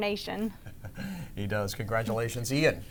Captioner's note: chuckles